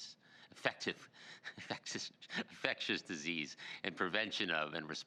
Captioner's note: laughs